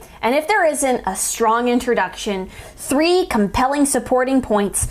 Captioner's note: none